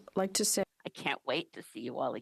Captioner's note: speaking French